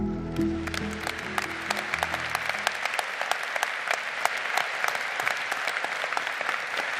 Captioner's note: slow upbeat music; audience applauding